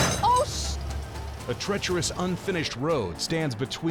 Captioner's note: chain snaps